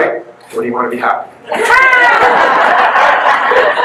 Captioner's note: guests laugh